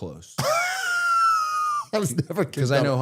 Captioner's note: Matt laughing